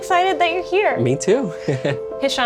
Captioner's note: chuckles